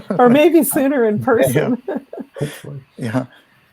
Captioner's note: laughs